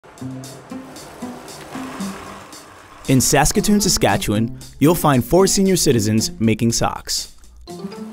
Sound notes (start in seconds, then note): 0.0 wheels spinning; 0.1 bouncy, playful music